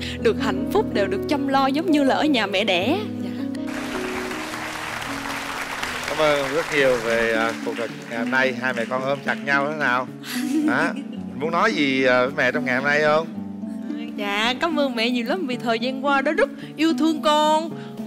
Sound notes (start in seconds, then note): 3.6 applause